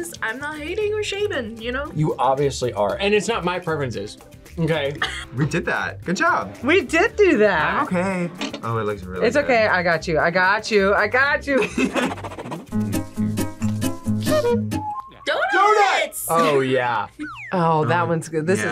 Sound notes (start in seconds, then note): 4.9 laughs; 11.5 laughs; 12.6 upbeat music